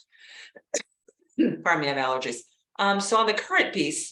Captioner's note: coughs